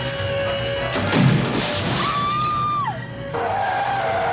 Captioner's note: glass shatters; screaming